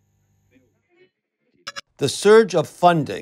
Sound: digital blip

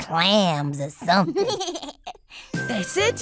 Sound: giggles

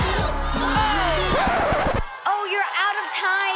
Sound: record scratch

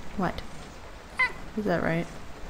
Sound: meow

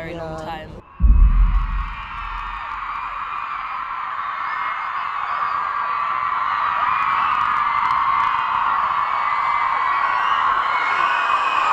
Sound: cheering

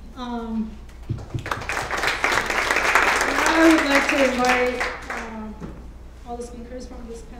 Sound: applause

